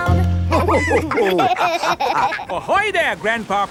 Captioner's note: all laughing